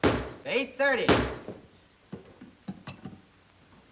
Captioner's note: ball thuds